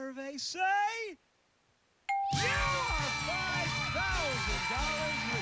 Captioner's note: cheers and applause